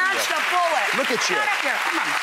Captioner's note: applause